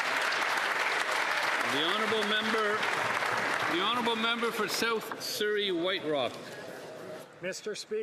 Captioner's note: some Applause